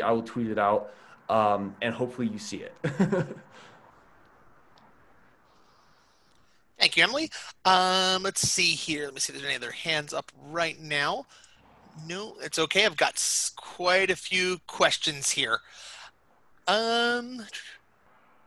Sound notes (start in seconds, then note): 2.7 laughs